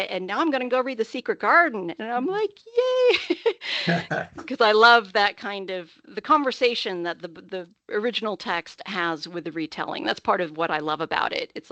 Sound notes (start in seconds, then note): 3.8 laughing